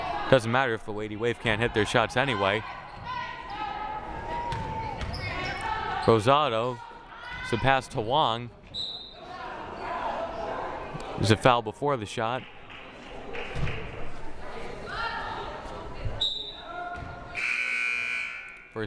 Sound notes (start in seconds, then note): 8.8 whistle blaring; 17.3 buzzer blaring; 17.3 whistle blaring